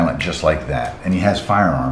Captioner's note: snaps fingers